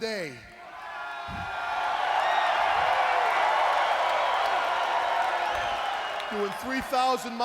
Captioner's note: crowd cheering